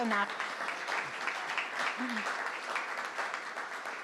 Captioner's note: crowd clapping